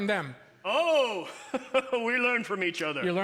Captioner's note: jolly chuckle